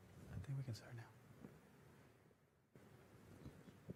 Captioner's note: whispers